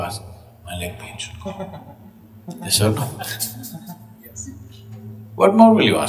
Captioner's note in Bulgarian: Смях